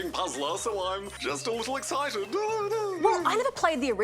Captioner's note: laughs